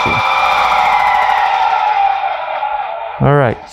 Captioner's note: machine powers down